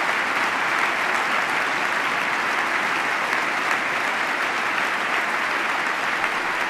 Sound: applause

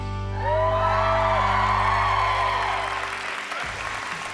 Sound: audience cheers

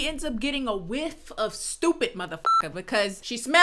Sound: beep

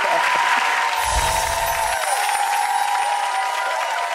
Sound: audience cheers

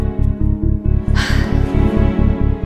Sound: Ananya gasps

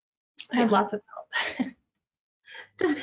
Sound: laughs

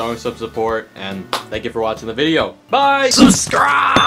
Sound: hands clap

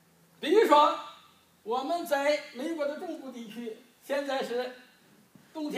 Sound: speaking foreign language

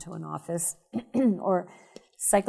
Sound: coughing

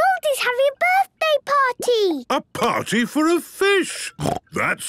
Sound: snorting

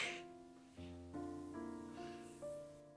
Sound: Julie laughs

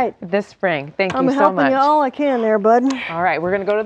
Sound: laughing

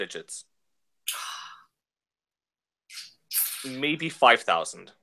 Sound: sigh

